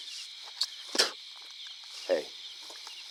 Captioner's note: spitting